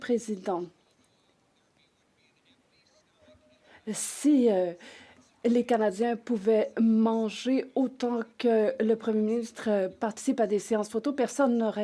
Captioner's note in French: voix de l'interprète